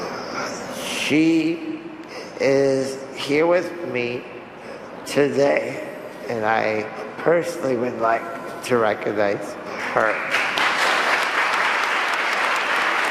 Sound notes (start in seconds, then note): 9.9 applause